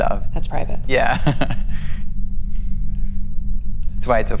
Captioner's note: laughs